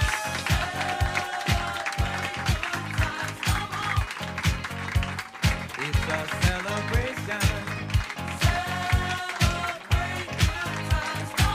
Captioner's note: applause